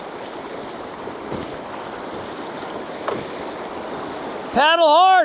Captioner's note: water splashing